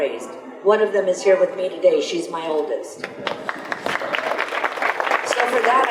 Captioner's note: audience applause